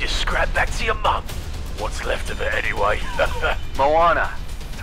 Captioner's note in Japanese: 嘲笑